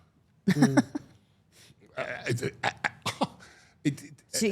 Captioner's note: laughing